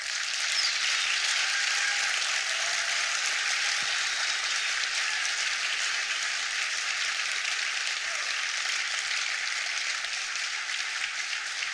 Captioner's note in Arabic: تصفيق